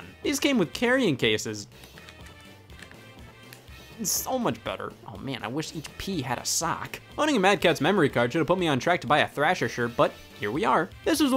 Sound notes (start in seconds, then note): 2.8 clicking